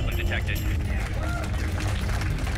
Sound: cheering

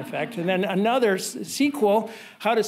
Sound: audience laughing

